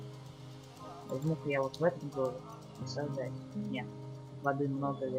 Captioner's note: weird language